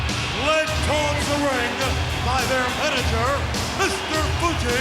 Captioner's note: crowd cheers